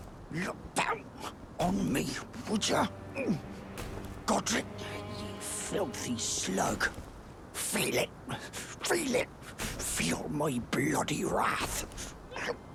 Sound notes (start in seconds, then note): 1.6 stomps